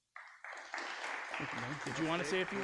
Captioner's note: audience applauding